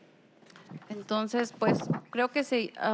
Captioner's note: speaking spanish